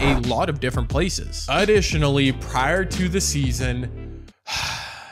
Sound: sigh

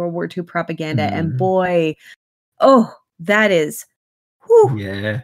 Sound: sound of incredulity

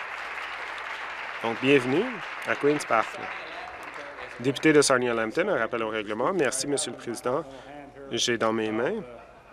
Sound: applause

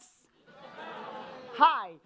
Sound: audience laughing

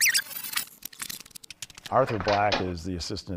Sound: tape rewinding

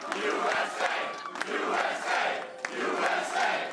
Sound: applause

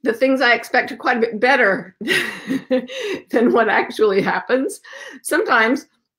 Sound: laughs

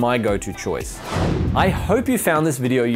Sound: whooshing

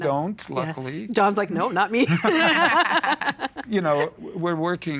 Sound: laughing

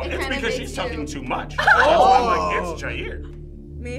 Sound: groups oohs

